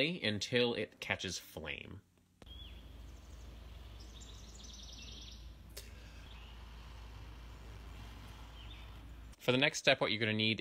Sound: sustained exhalations and bird song

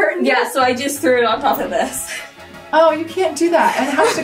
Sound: laughing

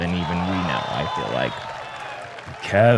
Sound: cheering

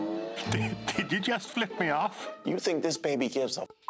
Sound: chuckles

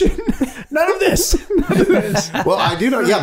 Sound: all laughing

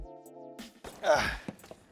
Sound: grunts

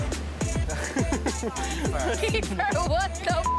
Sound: laughing; beep sound

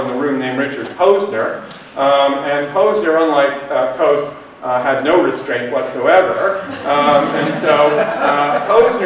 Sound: laughter

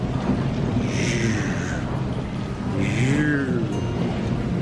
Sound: imitating car

